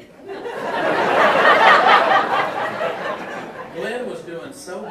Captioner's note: audience laughing